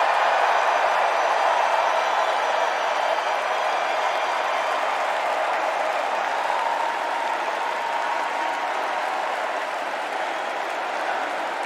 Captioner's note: cheers and applause